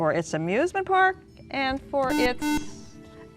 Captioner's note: beeping